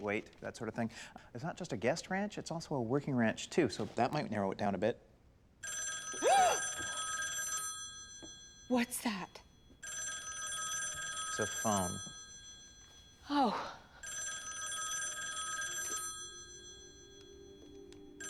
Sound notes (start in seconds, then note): 5.0 gasps; 5.0 rotary phone rings; 14.0 ringing